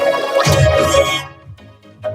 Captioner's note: wails, screams